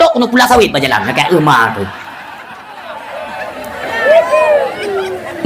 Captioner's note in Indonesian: tertawa